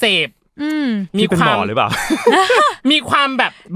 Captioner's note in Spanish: Risas